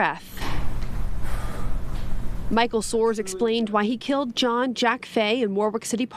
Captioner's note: exhales